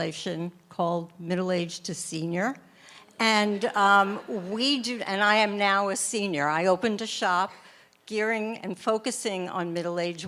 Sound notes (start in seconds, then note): 3.5 laughter from audience